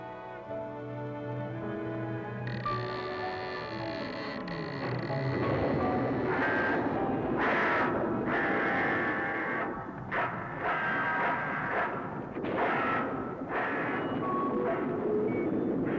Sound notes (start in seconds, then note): 2.4 door creaking; 6.4 ominous music